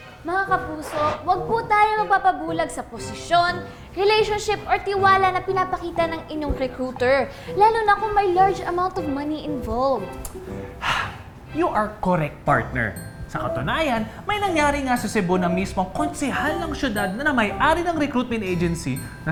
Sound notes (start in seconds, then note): 10.3 tongue clicking; 10.8 sighing